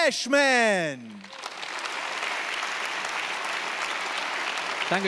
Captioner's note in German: Applaus